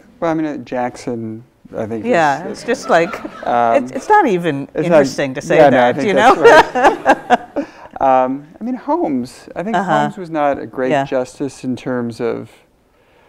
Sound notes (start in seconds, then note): 5.8 both laughs